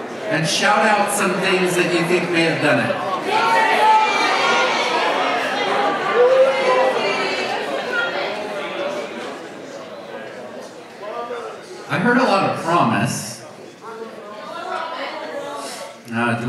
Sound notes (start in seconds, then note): 3.8 audience shouts